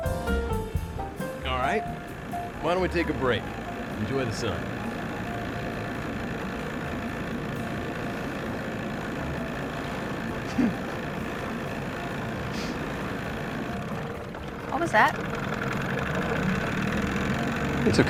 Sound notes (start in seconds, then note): 5.0 engine purring; 10.4 giggles; 13.7 engine slows, sputters; 16.7 engine sputters